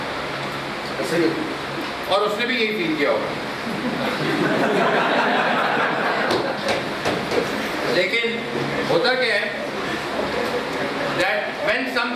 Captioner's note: laughter